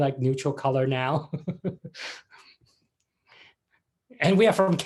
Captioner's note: laughs